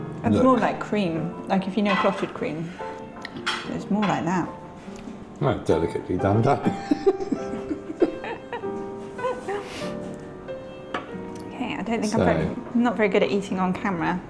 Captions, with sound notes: It's more like cream, like if you know clotted cream, it's more like that. delicately done. (laughing) Okay, I don't think I'm very, I'm not very good at eating on camera,